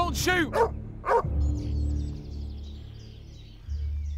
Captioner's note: birds chirping; tense music